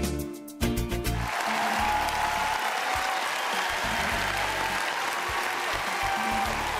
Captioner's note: cheering